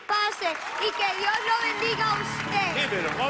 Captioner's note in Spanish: Aplausos